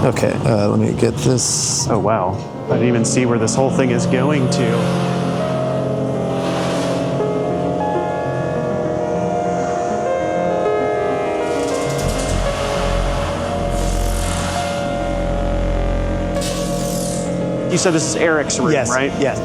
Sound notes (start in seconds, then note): 6.0 ambient sound reverberating